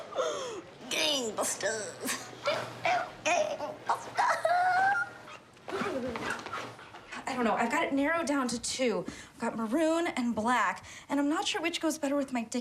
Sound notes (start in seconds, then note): 0.0 laughs; 2.8 chuckles